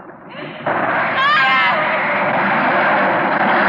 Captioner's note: yelling